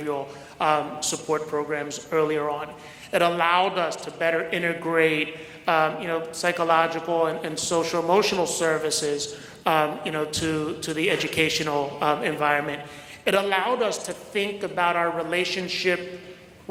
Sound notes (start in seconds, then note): none